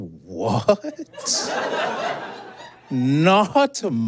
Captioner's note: chuckles; audience blurts laughter